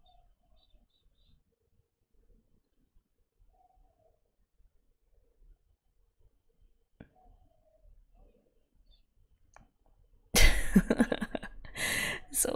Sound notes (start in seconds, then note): 10.5 laughs